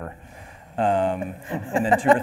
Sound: laughing

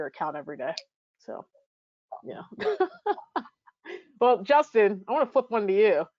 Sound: chuckling

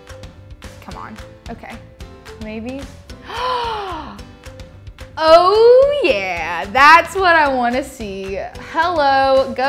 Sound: gasps

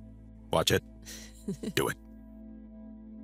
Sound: chuckles

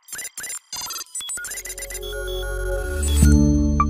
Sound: electronic beeping

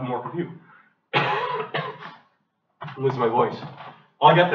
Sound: coughs, says he is losing his voice

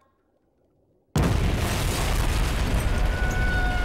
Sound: exploding

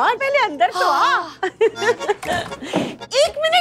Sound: laughter

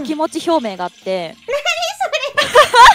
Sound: laughing

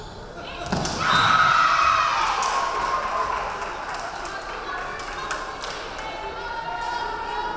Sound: crowd cheering; referee whistling

